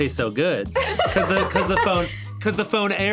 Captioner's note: laughing